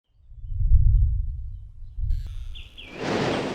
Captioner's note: sound of birds and wave